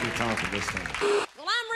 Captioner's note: beeping TV static